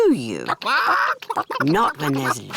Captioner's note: chickens chatter